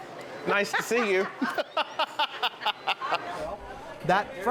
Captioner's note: laughing; laughs